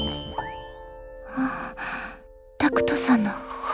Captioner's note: gasp